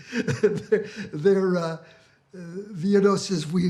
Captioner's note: laughs